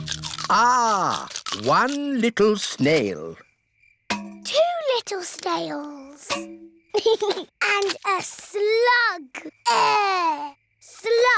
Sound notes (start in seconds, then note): 6.9 george giggles